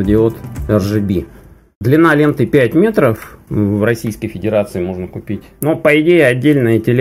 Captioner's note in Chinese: 俄语